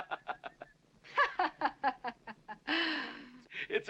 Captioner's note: laughing to himself; Katherine mocking